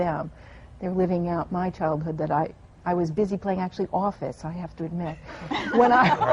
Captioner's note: laughter